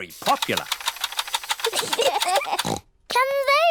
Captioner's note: both laugh